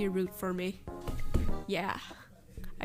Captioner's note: knock, knock